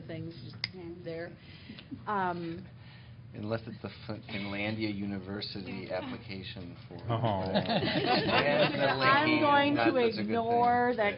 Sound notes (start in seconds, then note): 7.4 groans and laughter